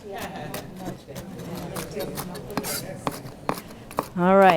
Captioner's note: sounds of chopping